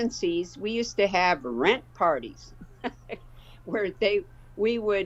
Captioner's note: laughs